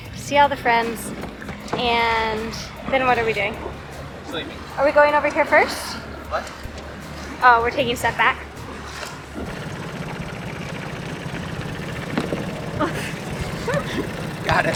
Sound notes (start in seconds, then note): 9.5 boat engine chugging; 12.3 both laughing softly